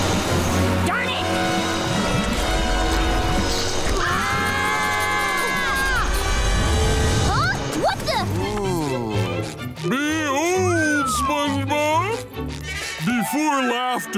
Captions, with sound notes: Darn it! [screaming] Huh? What the-? Ooh. Behold, SpongeBob. Before laughter,